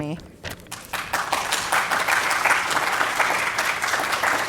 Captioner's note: audience applauds